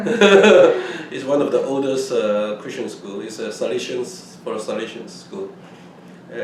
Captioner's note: laughs